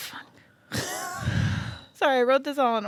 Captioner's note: laughs